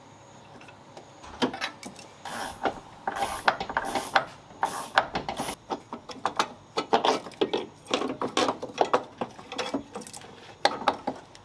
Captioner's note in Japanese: 作業音